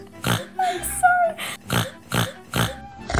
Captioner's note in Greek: Ρουθουνίζει